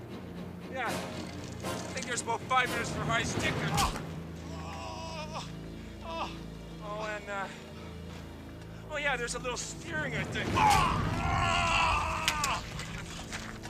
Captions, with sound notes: Yeah, I think there's about five minutes for high sticking. (man groaning) Oh and, uh, there's a little steering I think. (man yelling)